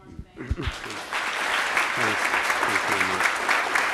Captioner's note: applause